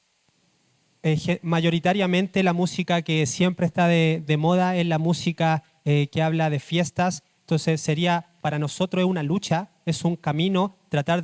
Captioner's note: speaking Spanish